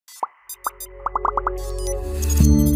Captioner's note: bubbles popping